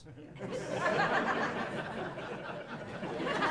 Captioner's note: laughing